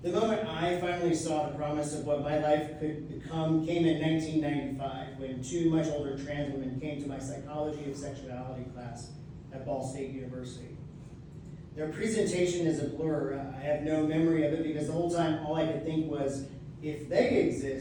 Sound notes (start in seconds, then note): none